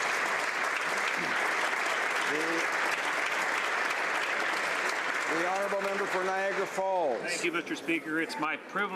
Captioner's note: applause